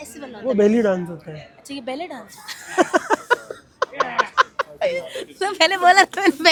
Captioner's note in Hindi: हंसी